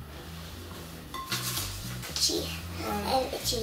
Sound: rustling

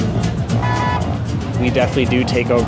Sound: ♬ Fast paced jazz music ♬; car honks

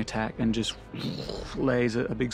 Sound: mimics dragonfire

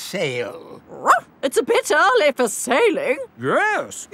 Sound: barks

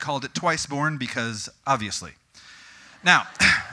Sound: audience: Giggling

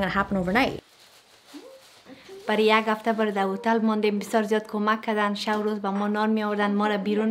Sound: speaking in a foreign language

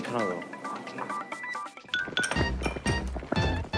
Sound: boiling

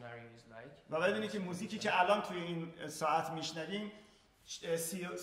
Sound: speaking in farsi

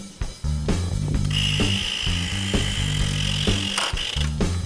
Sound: whirring

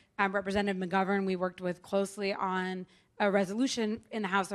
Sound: none

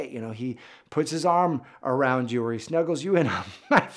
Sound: laughs genuinely

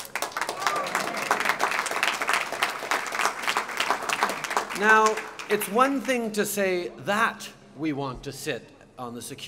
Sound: applause

